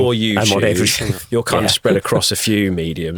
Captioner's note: chuckling